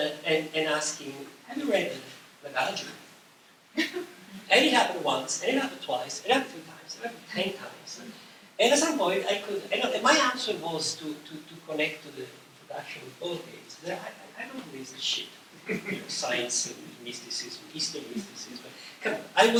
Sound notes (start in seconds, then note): 3.7 laughter